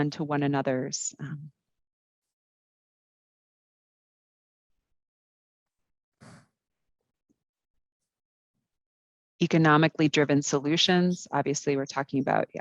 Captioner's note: brief silence